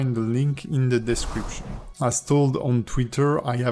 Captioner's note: air whooshes